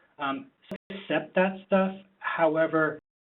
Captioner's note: static interruption